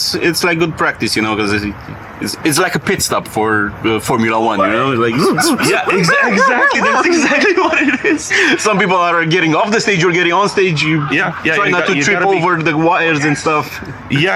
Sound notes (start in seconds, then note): 5.1 F1 pit stop noises